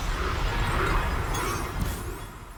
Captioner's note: clink